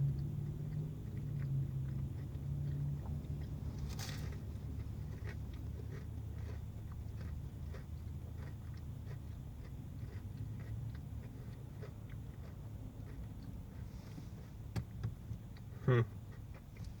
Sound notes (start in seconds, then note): 3.6 biting noise; 5.6 more chewing noises